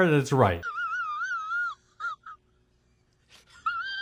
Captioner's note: squeaky laugh